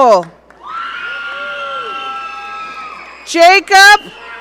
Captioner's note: audience cheering